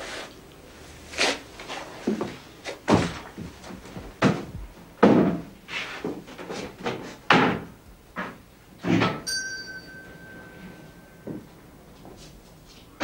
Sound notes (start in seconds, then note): 9.2 bell rings